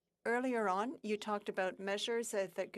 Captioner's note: speaking French